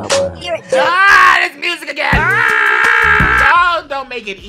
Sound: yelling

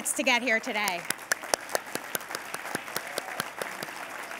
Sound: applause

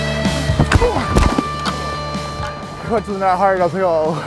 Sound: grunt

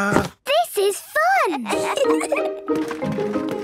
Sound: kids giggling

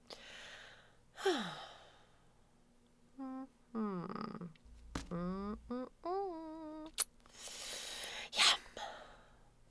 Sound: sigh

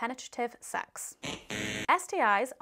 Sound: buzzer buzzing

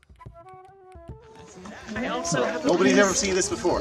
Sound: group chatter

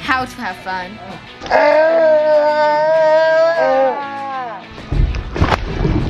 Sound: children yelling; objects thumping

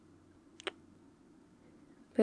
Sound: kiss

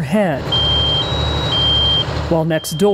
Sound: smoke alarm blaring

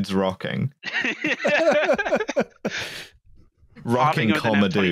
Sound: laughter

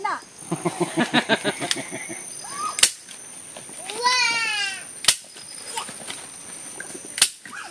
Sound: laughs

